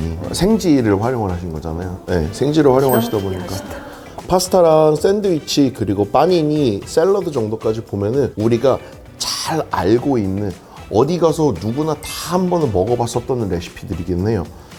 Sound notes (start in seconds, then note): 2.9 tingle